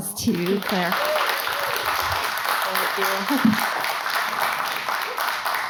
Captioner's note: audience applauding